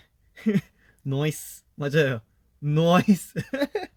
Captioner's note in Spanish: Acento australiano